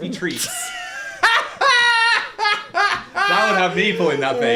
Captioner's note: laughing